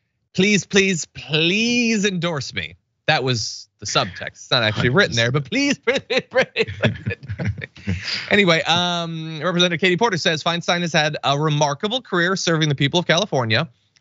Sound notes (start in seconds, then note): 7.5 laugh